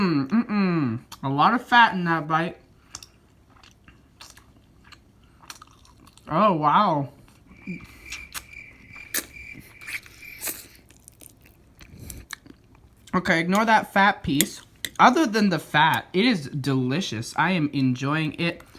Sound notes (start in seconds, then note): 2.8 chewing sounds; 7.2 crickets and chewing; 10.2 light sucking